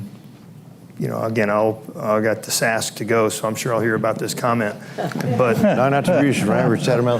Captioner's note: laughter